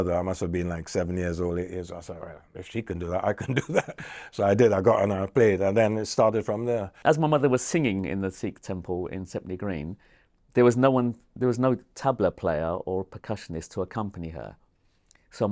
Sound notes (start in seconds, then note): 3.2 chuckles